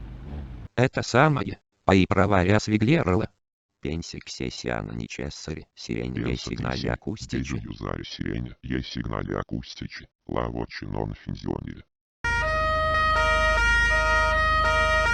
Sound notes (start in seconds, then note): 3.7 talking